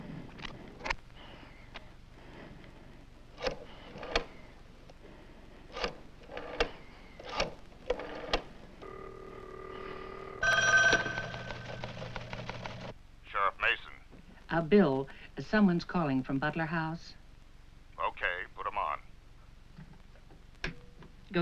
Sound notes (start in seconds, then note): 2.7 phone Dialing; 8.8 phone Ringing